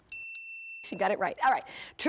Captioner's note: ding ding